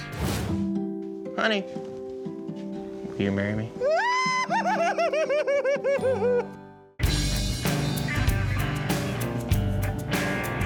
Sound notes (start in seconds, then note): 4.0 squealing